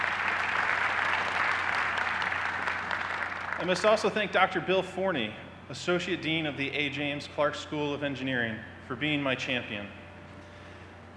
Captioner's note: applause